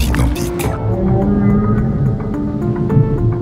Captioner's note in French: Chant de baleine